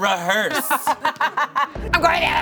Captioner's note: laughing